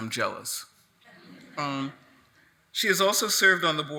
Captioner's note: attendees laughing